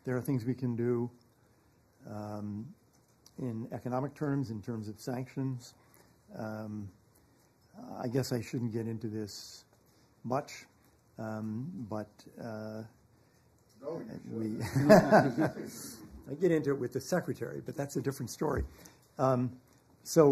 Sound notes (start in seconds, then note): 14.5 laughter